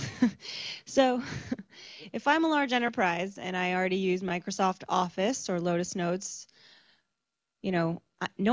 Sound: laughs

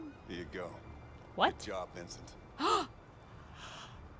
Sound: gasps

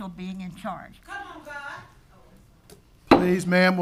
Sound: audience member shouting

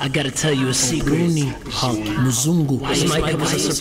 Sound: non-english speech

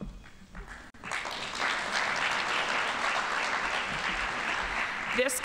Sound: audience applauding

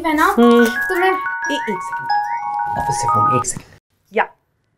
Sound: phone rings

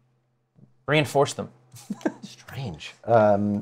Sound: laughs

